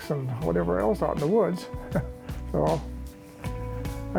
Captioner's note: chuckles